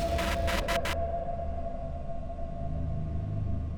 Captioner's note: rain pattering